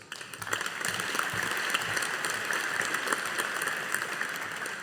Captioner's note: audience applauding